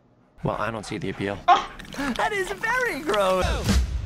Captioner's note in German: ougghh